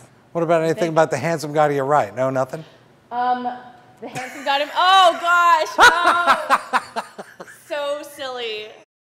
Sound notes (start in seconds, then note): 5.6 continues to laugh; 5.6 laughs